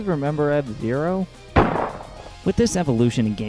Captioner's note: gunshot